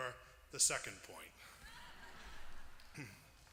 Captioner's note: laughter